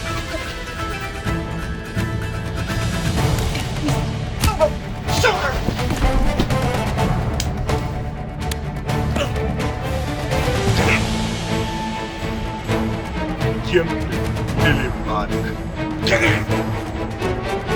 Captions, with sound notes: Wrist! Elbow! Shoulder! (speaking in Norwegian)